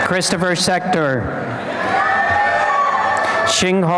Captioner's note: applause and cheering